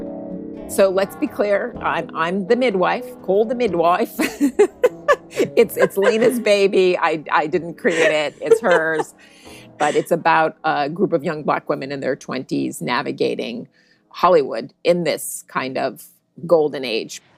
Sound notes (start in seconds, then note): 3.1 putting on a British accent; 4.2 both laugh